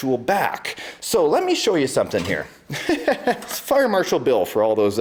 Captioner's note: laughs